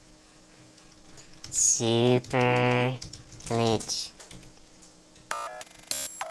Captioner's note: typing